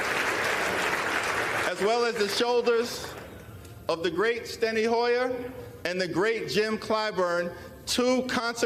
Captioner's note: applause